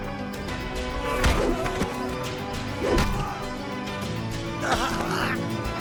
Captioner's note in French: des coups de pied sifflants et sourds